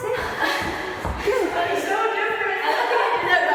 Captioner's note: laughs